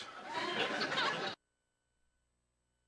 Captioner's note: sitcom laughter